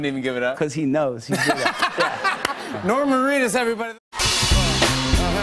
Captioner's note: laughter